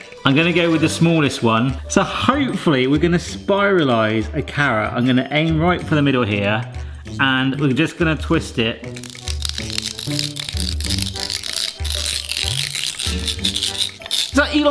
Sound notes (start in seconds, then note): 8.8 carrot crunching; 8.9 drill scraping; 12.2 playful music